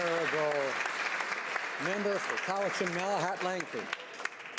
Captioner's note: speaking native language; some Applause